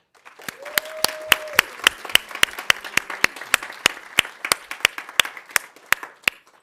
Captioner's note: audience applauding; audience cheering